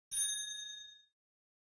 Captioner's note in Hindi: घंटी की आवाज़